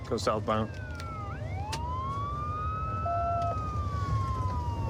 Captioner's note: sirens wailing